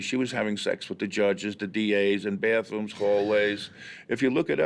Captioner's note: gasps